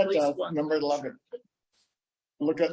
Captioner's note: laughs